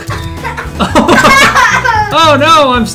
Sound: both laughing

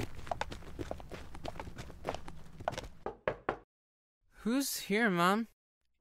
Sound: knock on door

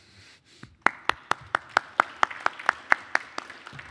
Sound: applause

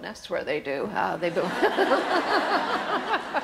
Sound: audience laughter

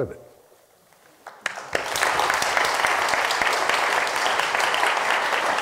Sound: audience applauding

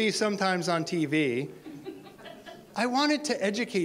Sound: audience laughter

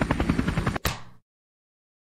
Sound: smack

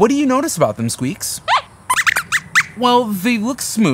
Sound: squeaks squeaks

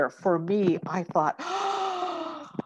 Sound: gasps

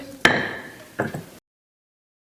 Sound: gavel bangs

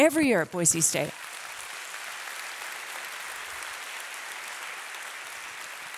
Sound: audience applauding

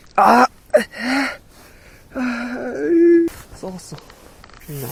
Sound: crying

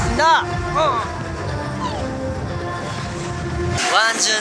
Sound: excited

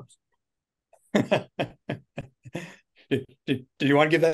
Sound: laughing

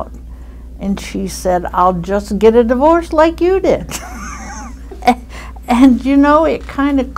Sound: laughs

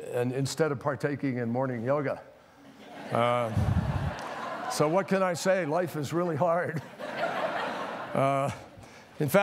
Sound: laughter

